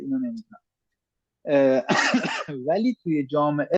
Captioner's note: coughs